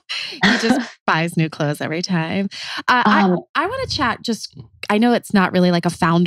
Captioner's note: laughs